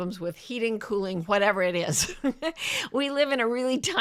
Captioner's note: chuckles